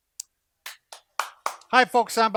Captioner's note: clapping